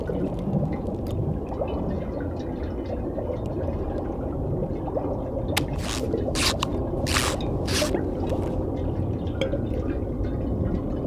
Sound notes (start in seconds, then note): 5.8 squeaking